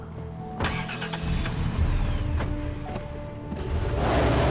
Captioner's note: engine Starts